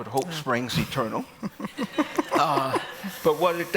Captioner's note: laughter